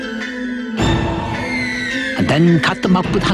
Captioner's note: whales screaming